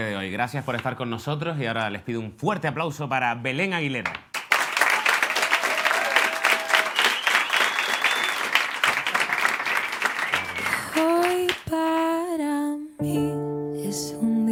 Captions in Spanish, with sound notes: Gracias por estar con nosotros, y ahora les pido un fuerte aplauso ¡para Belén Aguilera! (Aplausos)